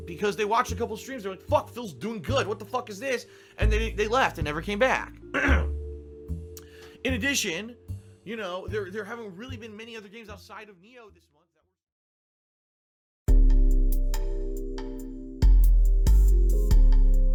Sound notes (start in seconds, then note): 5.3 clears throat